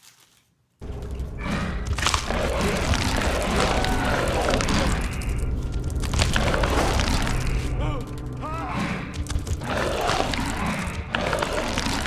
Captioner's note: biomass sounds and screaming intensifies